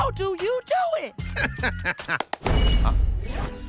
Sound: laughing

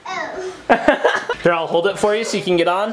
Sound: laughs

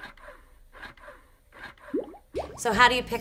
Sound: pump swooshing; bubbles popping

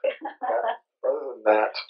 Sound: laughs

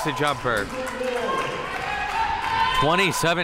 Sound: spectators applauding

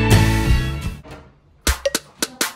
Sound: door opens up

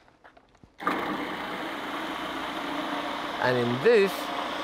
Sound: food processor whirring

